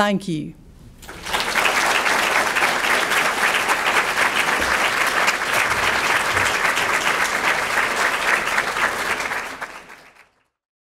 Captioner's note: applause